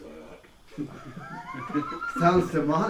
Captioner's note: group laughs